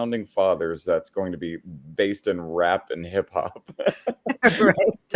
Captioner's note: laughs